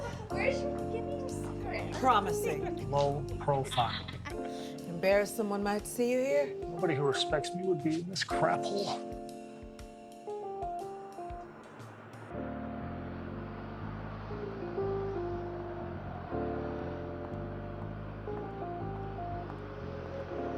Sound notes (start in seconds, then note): 0.0 both laughing; 11.2 traffic whooshing; 16.4 bright jazz music continues